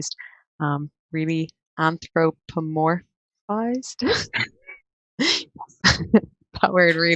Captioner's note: all laugh